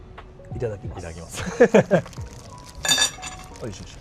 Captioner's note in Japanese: 笑い